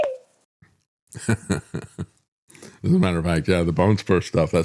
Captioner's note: laughs